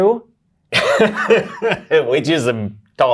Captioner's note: guy laughs